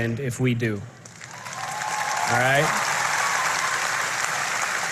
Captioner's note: applause